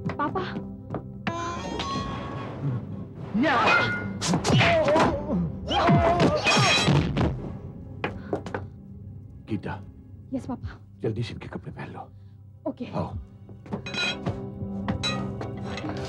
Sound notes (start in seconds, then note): 1.3 door creaks